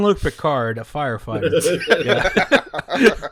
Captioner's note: laughter; laughter intensifies